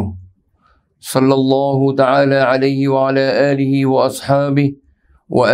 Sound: arabic

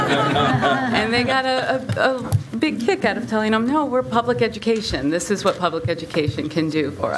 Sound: laughter

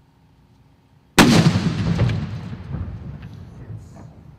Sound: explosive boom

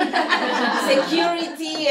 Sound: laughter

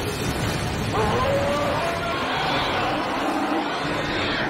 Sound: monster screeching

